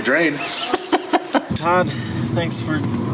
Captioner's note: laughs